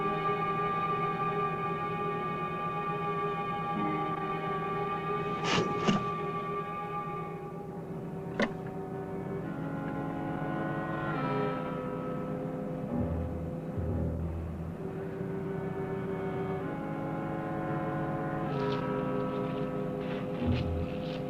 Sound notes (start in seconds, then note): 0.1 worrying music; 5.4 click; 8.2 click - worrying music